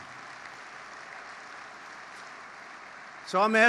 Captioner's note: applause